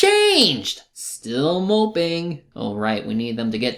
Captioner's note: imitating Don Juan